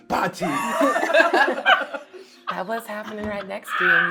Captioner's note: laughing